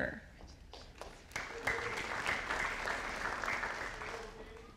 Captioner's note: audience applauding